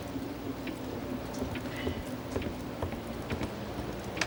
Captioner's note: footsteps approaching